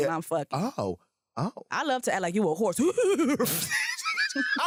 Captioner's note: makes horse sounds